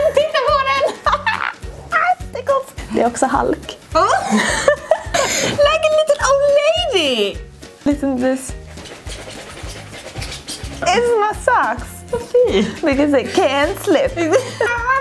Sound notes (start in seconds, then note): 0.0 laughs